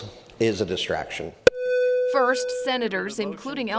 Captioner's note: electronic beeping